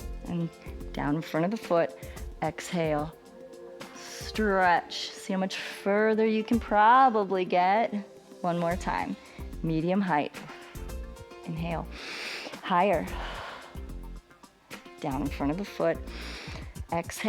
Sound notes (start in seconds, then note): 11.9 inhales; 11.9 exhales; 16.0 inhales